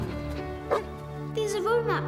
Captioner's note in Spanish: perro ladrando